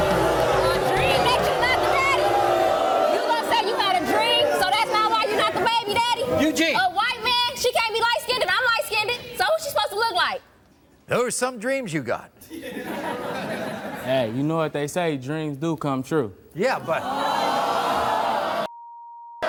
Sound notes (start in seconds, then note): 0.4 yelling; 12.5 audience laughing; 16.8 audience yelling